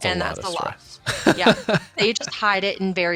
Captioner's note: laughing